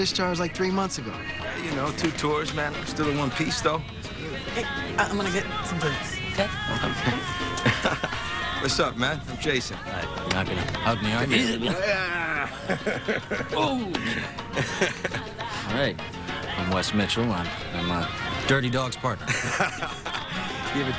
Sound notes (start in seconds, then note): 6.8 chuckles; 10.7 chuckles; 19.0 laughs